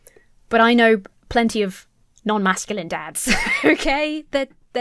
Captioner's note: laughs